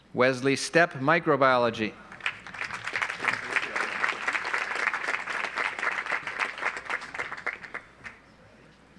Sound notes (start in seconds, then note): 2.0 audience applauds